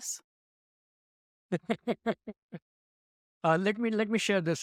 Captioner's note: chuckling